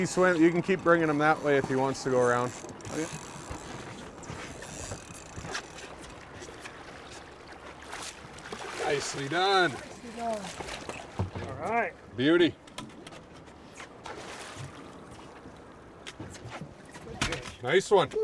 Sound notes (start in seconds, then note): 4.7 reel spinning; 6.7 fish splashing